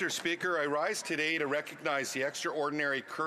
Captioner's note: speaking French